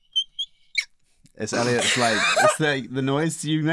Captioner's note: squeaking noise